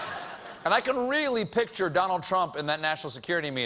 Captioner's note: laughter